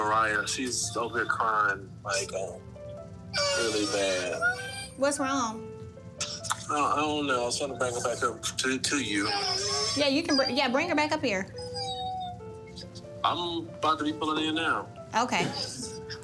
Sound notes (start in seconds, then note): 3.3 crying